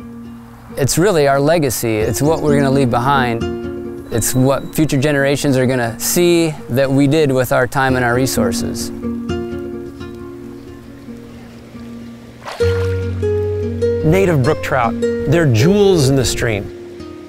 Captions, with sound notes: It's really our legacy. It's what we're gonna leave behind. It's what future generations are gonna see that we did with our time and our resources. (calm guitar music) (water splashes) Native brook trout; they're jewels in the stream.